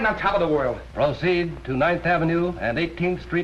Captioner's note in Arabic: على الراديو